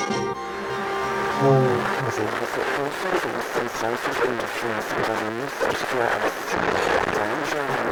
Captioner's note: heavily Distorted Voice